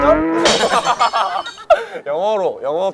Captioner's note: laughing